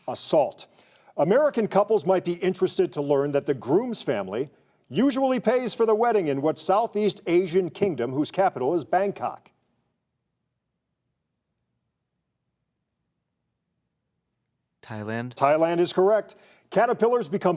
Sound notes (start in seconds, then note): none